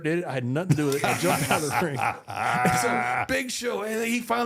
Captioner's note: Mark laughs